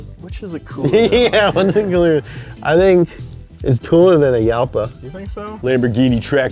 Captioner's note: laughter